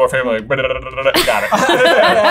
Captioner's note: imitating scrolling sound; everyone laughing amusingly